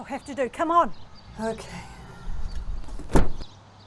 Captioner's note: sighs